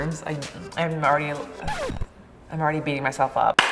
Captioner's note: record scratch